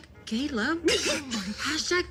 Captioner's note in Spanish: Risas